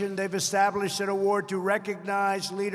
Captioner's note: none